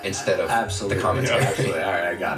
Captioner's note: laughs